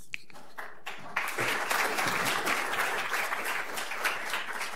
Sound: audience clapping

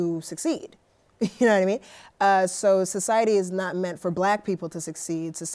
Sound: chuckles

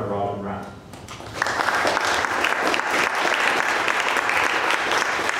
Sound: applause

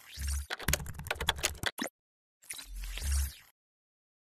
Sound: clicking

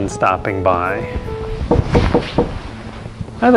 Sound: four knocks on the door

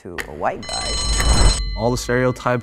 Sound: bell ringing

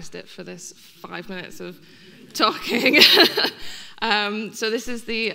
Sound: laughing

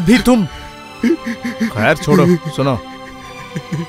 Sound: crying

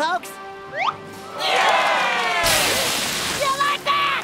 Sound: crowd cheering

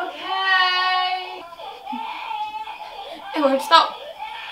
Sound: crying still going strong

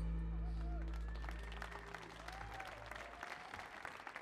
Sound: audience applauding

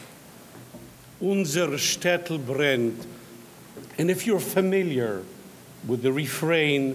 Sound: speaks in foreign language

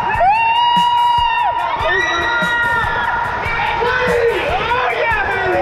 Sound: screaming

